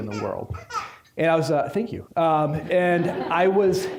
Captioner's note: baby laughing; audience laughing